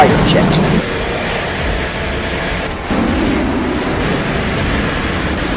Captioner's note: planes buzzing